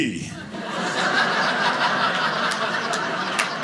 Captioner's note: audience laughing